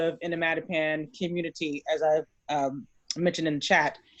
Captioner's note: none